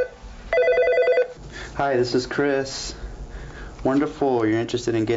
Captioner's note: phone rings